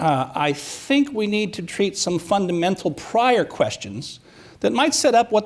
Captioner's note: none